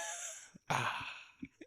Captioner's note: laughing